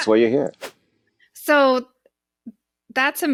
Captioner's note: whooshing sound